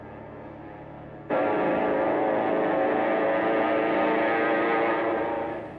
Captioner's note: plane engine roars